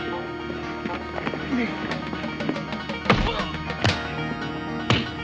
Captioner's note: grunting